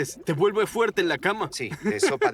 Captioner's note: laughs